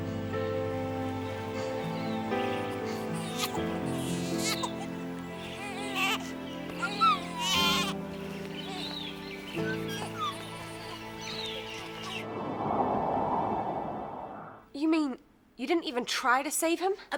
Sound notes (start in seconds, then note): 0.8 emotional music; 2.9 baby crying